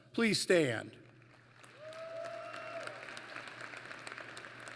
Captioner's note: applause